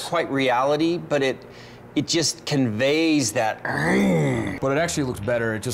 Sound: growls

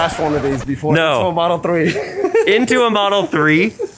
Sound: laughing

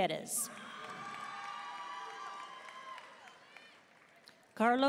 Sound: audience cheering and applauding

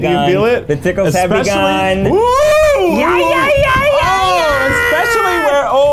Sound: uncomfortable cheering

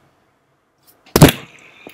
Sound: smacc

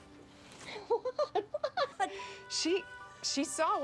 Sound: excitedly

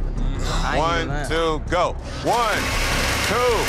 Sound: blenders whirring

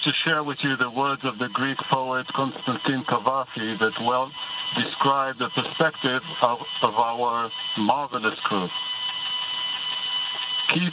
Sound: speaking in native tongue

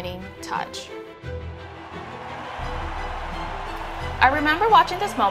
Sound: crowd cheering

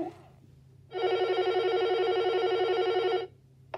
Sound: phone ringing

